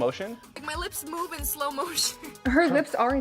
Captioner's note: laughs